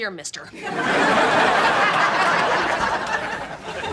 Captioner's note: audience laughing